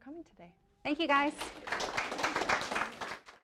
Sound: applause

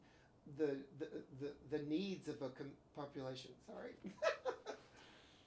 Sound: laughs

